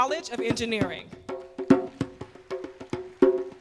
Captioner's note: applause